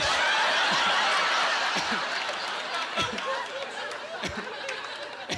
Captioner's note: chuckling